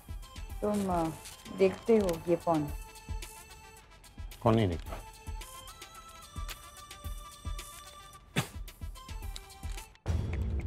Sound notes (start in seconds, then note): 8.4 Clears throat